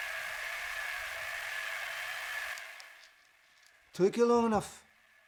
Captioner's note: whirring static